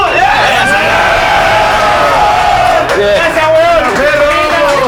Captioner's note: cheers